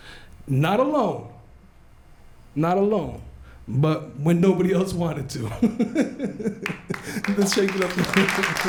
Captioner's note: laughs; applause